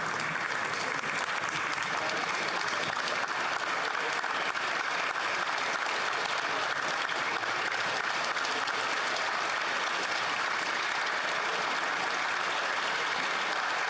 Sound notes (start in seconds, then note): 1.5 applause